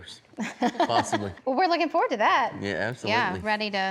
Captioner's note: chuckling